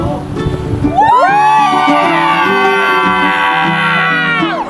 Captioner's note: everyone screaming